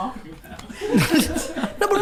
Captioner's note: group laughs